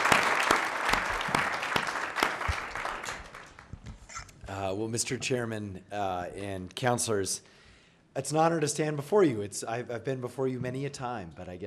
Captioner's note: applause